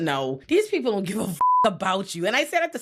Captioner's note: beep